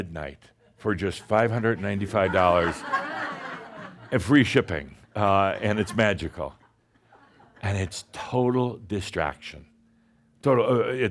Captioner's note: laughter